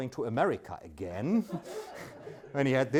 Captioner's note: audience laughs